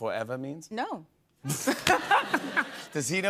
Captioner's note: laughter